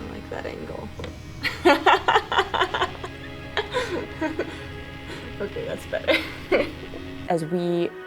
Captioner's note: laugh